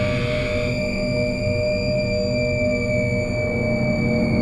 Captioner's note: high scream echoing